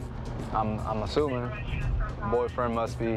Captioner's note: radio noise